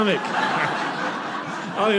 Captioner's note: audience laughing